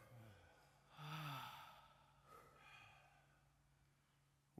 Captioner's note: group exhaling